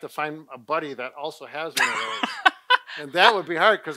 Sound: laughs

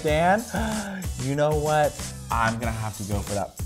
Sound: gasps

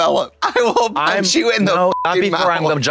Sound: beep

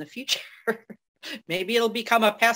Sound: laughs

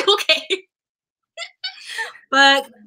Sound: laughter

